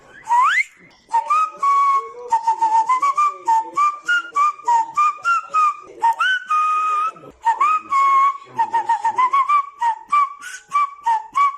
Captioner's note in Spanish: Y más silbidos